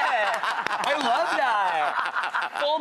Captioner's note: claps; laughs